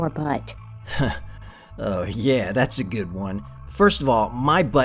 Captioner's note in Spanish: ríe